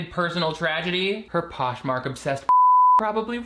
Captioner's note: beeps